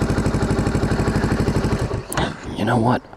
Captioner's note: engine shuts off